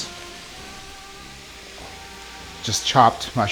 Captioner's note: sizzling